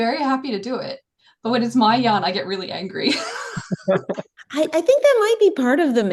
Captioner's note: laughter